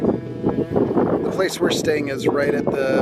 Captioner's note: wind rustling